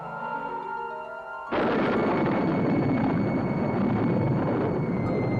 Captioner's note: thunder clapping